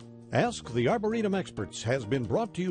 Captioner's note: voiceover